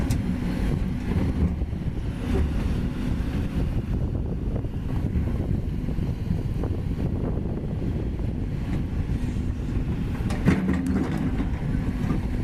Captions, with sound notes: [Rumble] Watch Out! Vanished in River 7-Ton Tetrapod Drops into Raging Waters